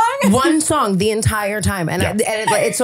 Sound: laughing

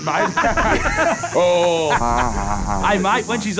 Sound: Terry mock laughing

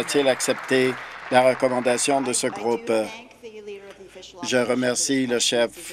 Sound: applause

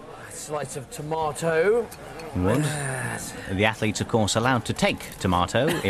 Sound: laughter

